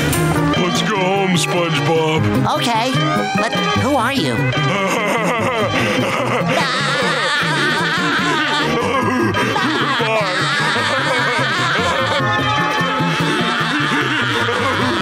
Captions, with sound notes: -Let's go home SpongeBob. -Okay, but who are you? [laughing] [laughing]